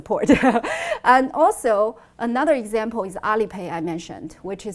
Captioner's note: laughs